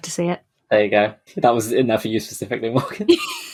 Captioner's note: laughing; laughs